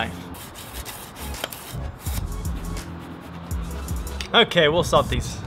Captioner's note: knife sharpening